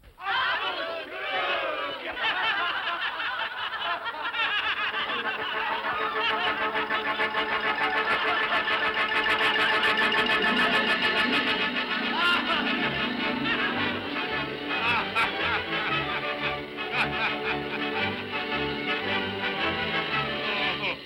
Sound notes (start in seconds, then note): 2.1 all laugh; 5.0 whimsical music; 14.6 spirit laughs; 14.6 whimsical music